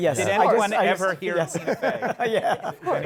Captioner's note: laughs